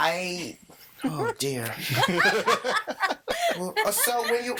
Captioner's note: all laughing